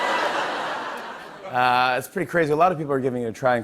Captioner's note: laughter